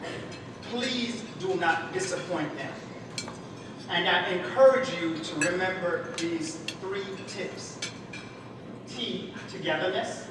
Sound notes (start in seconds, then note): none